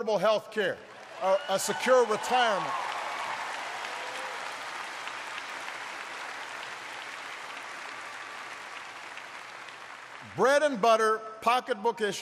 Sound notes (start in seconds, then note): 6.3 applause